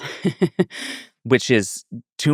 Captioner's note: laughing